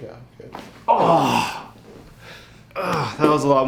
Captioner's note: man groans